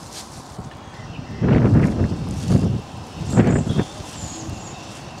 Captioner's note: strong wind